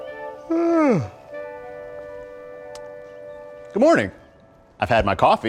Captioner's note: rooster crowing, yawn